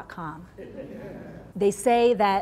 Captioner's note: laughing